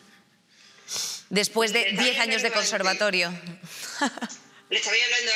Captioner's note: laughs